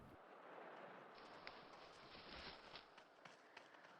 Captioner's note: leaves rustling